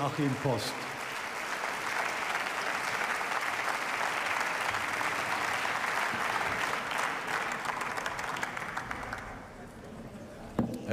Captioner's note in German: Beifall